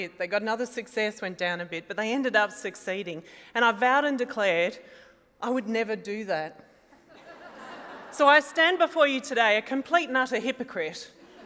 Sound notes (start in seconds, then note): 7.0 laughter